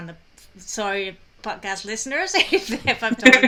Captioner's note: laughs